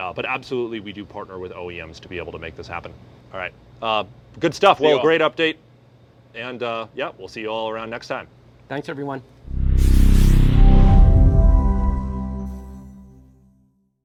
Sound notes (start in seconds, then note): 9.4 whooshing sound